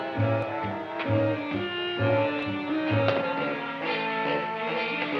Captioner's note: feet thumping